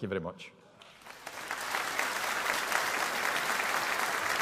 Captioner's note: audience applauding